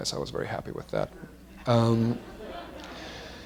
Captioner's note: laughter